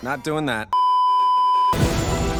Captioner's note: beeeeeeeeeeeep